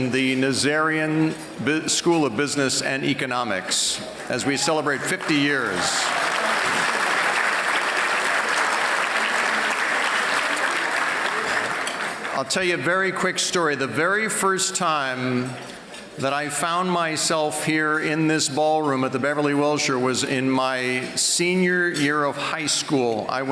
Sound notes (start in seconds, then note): 4.6 applause